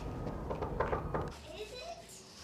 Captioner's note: door knocks